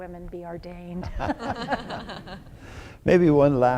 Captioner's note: laughter